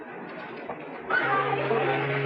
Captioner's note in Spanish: Sirena del barco